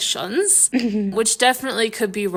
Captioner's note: laughing